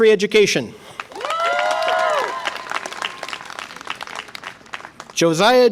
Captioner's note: audience applause and cheer